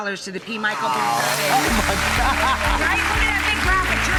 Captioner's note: laughing